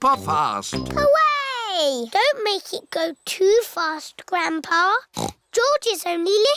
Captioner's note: snorts